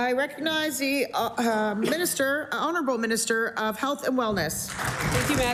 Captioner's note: applause